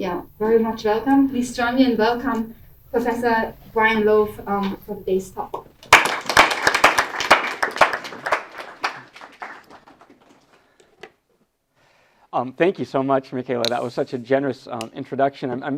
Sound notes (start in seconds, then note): 8.9 audience applauds